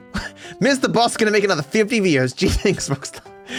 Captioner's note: laughing